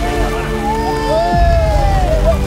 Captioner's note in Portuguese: gritam